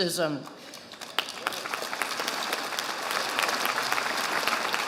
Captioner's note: audience applauding